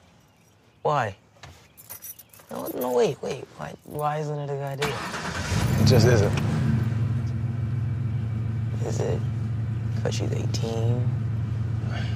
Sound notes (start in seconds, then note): 4.8 engine turns over; 11.8 sighs